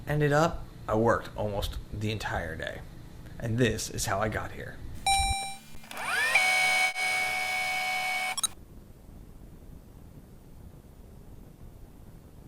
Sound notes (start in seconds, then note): 5.0 tape rewinding; 5.1 robotic ding